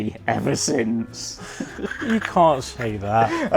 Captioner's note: chuckles